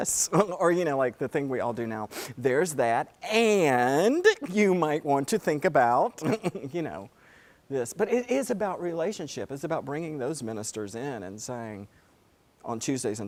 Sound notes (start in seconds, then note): 6.2 laugh